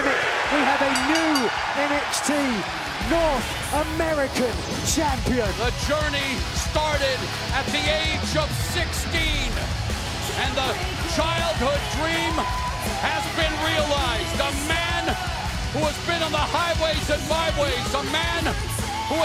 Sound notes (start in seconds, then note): 2.6 bell ringing